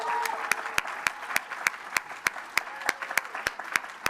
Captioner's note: applause